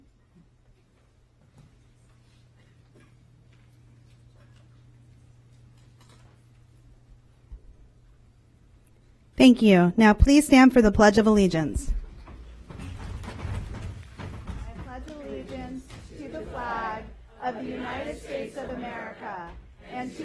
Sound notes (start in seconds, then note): 3.4 moment of silence